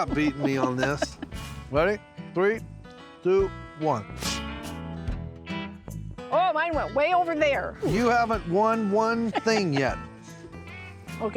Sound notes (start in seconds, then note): 4.4 both spitting